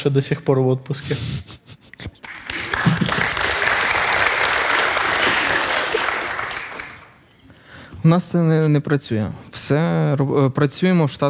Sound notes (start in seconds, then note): 2.5 the audience cheers